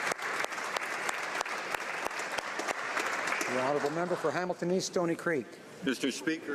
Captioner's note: applause